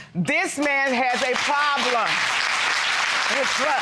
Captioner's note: audience applauding